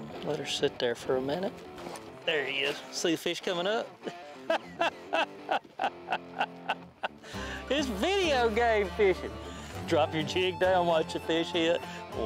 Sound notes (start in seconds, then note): 4.0 laughing